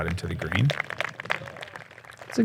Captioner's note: applause